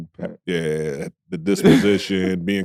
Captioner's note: laughs